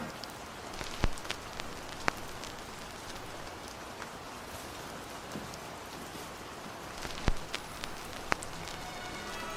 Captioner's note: record fuzz